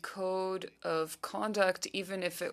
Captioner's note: speaking French